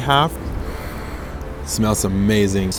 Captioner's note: sniffs